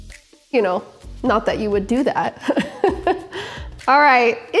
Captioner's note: laughs